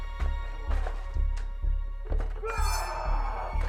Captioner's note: suspenseful music; Meathook Man growling; Meathook Man roaring